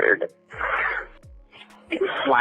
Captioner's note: crying